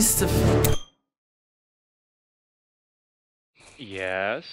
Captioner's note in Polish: Brak dźwięku